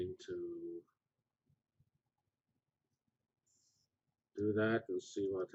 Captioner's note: pause